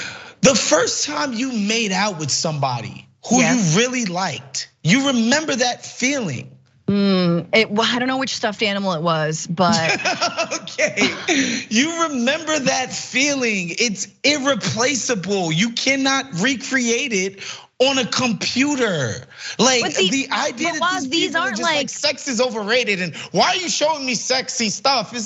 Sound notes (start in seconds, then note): 9.6 laugh